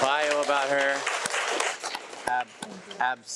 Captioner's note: attendees applaud